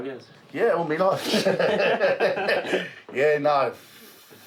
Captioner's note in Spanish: todos ríen